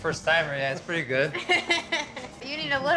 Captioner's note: chuckling